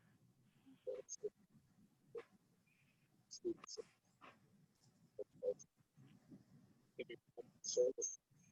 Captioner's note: silence